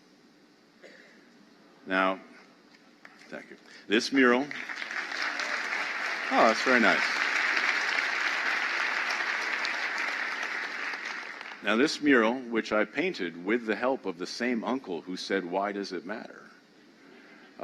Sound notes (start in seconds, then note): 8.4 applause